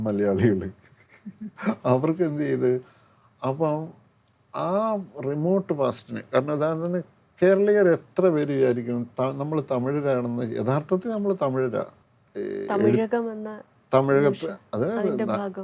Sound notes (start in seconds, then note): 0.8 laughs